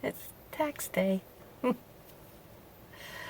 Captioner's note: none